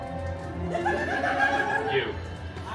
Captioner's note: guests laughing